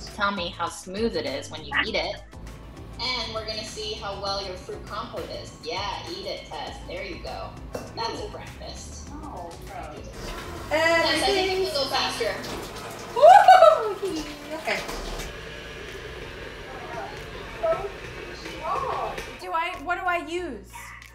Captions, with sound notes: to tell me how smooth it is, when you eat it. And, we're gonna see how well your fruit compote is. Yeah, eat it, Tess, there you go. That's a breakfast. - No, gross. - Everything's-- - Tess, I think you could go faster. (mixture splatting) - (shouts playfully) Okay. (machine whirring) - Do I, what do I use?